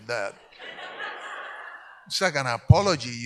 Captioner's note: audience laughs